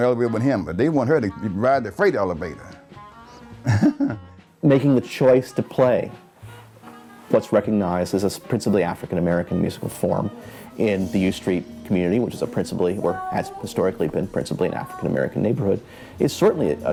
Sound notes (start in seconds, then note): 3.6 chuckles